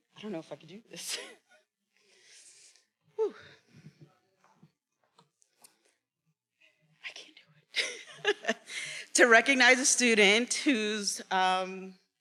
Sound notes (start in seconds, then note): 3.2 chuckles; 4.1 faculty member speaking faintly; 7.8 chuckles